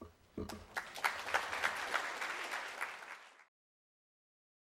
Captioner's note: audience applause